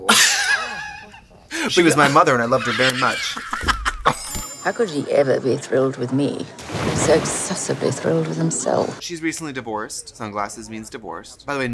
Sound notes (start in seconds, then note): 0.0 laughs